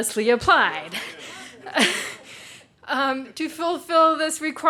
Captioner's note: people chatter; chuckles